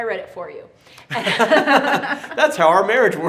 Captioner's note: both laugh